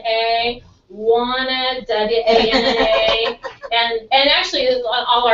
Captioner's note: laugh